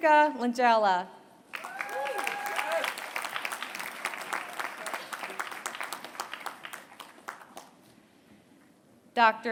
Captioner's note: applause